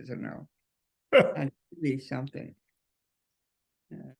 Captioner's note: Errol laughs